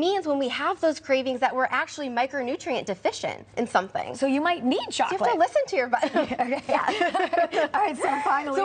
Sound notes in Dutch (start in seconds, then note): 5.8 laughs